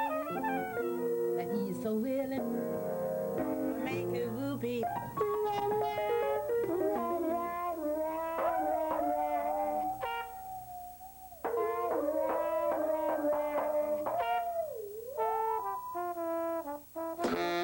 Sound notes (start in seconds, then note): 13.9 laughs